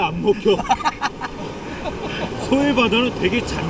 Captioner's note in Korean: 웃음